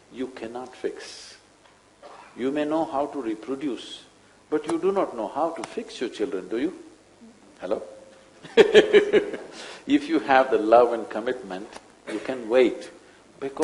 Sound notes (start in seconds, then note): 8.5 laughs